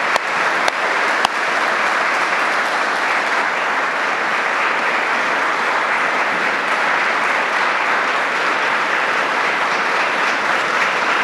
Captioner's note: applause